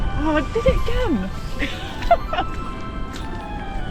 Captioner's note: laughing